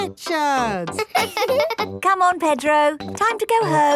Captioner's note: both laughing; chuckles